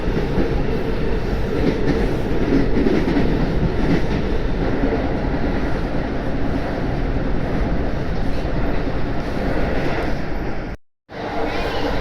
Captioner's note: wheels groaning; train switches track, Amtrak ACS-64 horn, with doppler effect